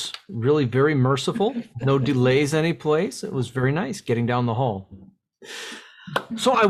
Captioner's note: laughs